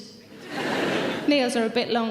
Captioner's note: laughing